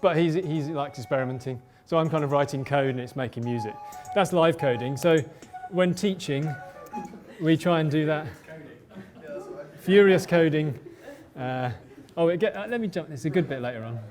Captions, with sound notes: But, he likes experimenting. So I'm kind of writing code, and it's making music. That's live coding. So, when teaching, we try and do that. (crowd noise) Furious coding. (laughter) Let me jump, there's a good bit later on.